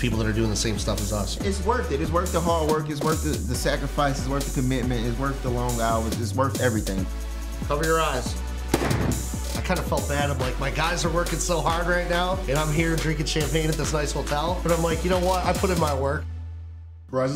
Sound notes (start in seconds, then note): 8.7 cork pops